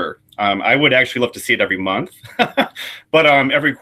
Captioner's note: laughs